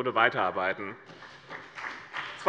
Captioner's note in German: Beifall bei dem BÜNDNIS 90/DIE GRÜNEN und der CDU